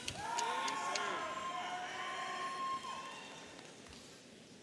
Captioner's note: audience cheering